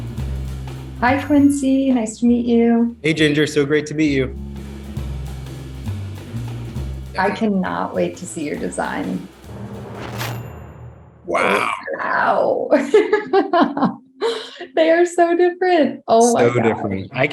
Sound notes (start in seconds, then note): 12.6 laughs